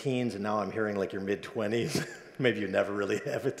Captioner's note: laughs